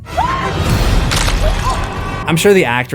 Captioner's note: screams